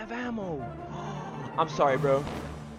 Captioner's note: gasps